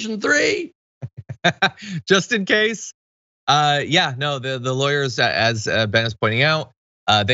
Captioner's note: laugh